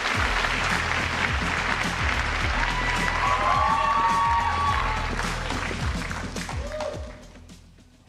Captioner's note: applause